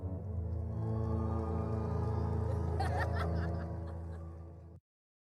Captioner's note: crowd cheering